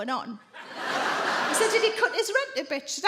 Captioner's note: audience laugh